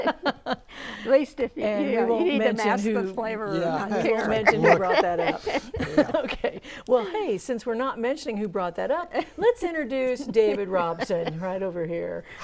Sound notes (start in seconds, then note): 0.1 laughing